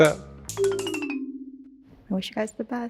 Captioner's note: bells descending